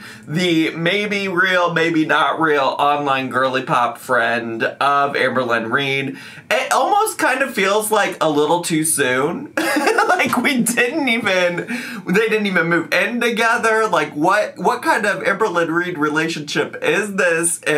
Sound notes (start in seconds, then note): 9.6 laughs